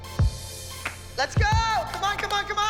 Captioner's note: shouting